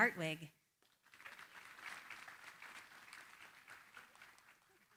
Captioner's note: applause